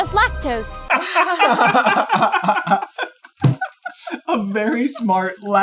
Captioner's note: laughing